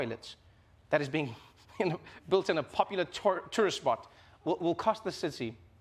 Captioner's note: laughs